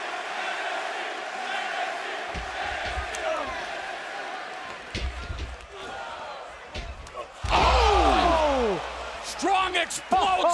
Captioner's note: fans chanting